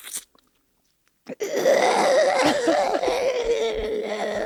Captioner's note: groans